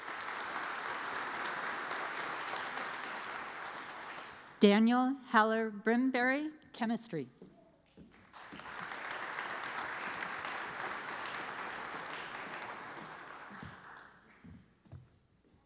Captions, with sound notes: (audience applauds) Daniel Heller Brimberry, Chemistry. (audience applauds)